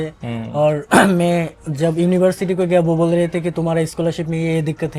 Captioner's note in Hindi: गला साफ़ करने की आवाज़